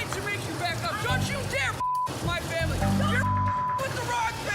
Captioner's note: beep